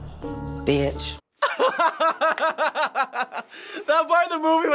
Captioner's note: laughs